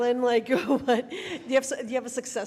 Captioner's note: laughs